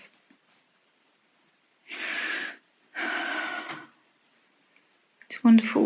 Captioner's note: heavy sigh